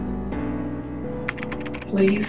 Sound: typing on keyboard

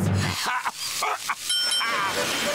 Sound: coughing

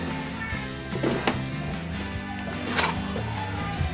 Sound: clothes rustle

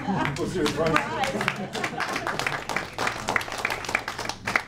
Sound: woman laughing; audience applauding

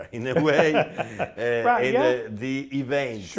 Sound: laughs

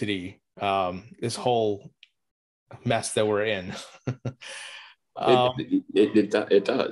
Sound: laughs

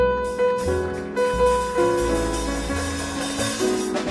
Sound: audience applauding

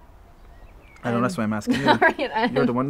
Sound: laughing

